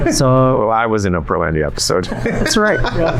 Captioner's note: laughs